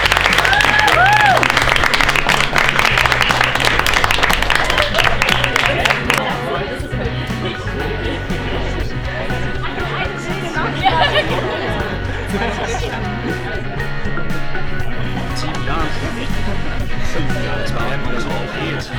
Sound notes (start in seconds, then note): 4.8 laughter and chatter and upbeat music